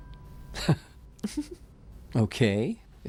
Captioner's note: both chuckle